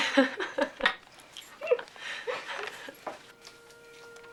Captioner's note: laughing; soft music